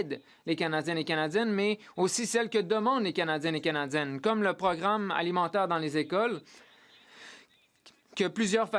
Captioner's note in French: voix de l'interprète